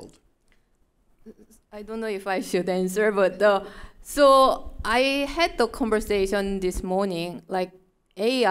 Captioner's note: chuckle